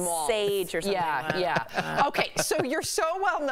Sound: laughter

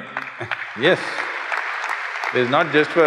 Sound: applause

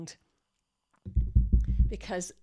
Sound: knocking

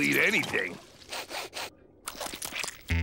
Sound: sniffing

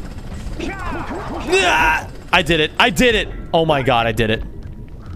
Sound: yelps

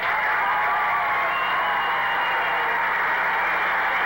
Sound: applause and cheers

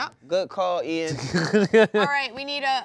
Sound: laughing

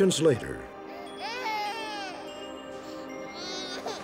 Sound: baby crying

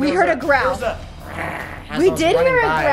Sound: imitates growl

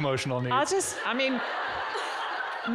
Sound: audience giggling

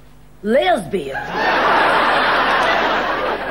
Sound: audience laughing

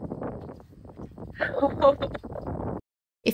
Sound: laughing

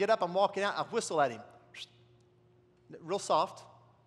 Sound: whistles

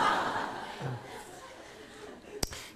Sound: audience Laughs

